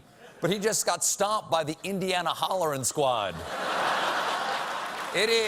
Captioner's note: applause; laughter